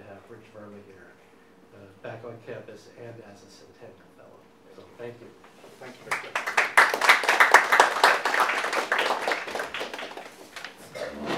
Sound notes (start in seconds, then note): 6.0 audience applauding